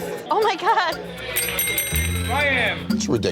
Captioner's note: bell dings